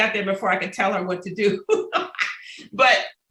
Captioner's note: laughter